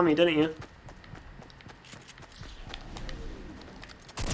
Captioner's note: gunfire